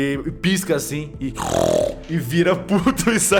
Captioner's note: angy snort